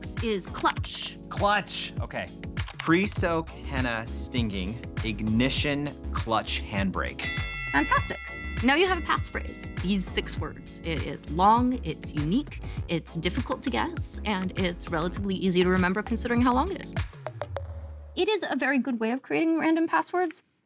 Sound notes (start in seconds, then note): 7.2 bell dings